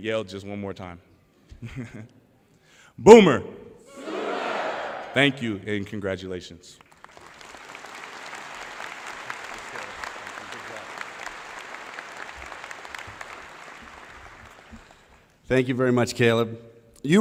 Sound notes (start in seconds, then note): 1.5 laughter; 12.2 applause